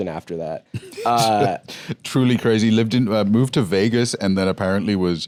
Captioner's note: laughs